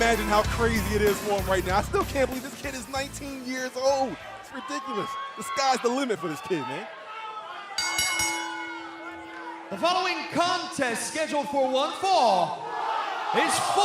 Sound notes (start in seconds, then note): 10.3 bell ringing